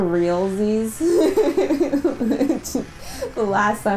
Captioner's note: laughter